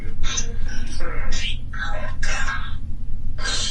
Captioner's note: EVP warbles